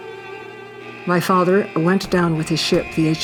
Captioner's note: military ship alarm buzzing